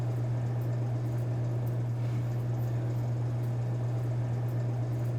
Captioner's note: vending machine whirring